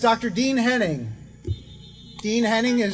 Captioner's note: car horns honking